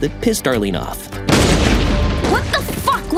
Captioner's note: rifle firing